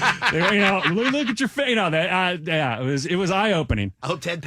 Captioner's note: laughing